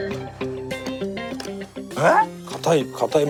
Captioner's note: crunch, crunch, crunch